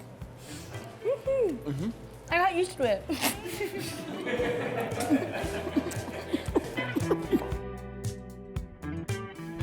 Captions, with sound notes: “I got used to it.” [LAUGHS]